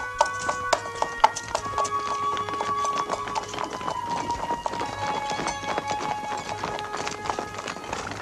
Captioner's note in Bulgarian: аплодисменти